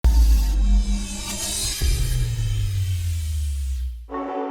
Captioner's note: dramatic electronic tone